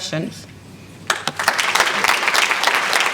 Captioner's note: applause